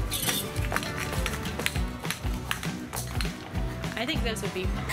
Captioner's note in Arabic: الأحذية clomping